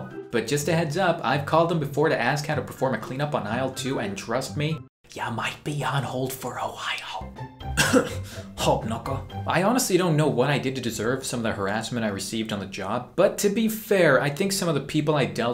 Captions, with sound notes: But just a heads up, I've called them before to ask on how to perform a clean up on aisle 2 And trust me. *whispers* Ya're might be on hold for awhilee I honestly don't know why I get to deserve some of the harrassment I received on the job But to be fair, I think some of the people I dealt with